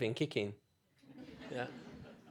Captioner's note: laughter